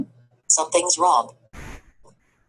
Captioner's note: voiceover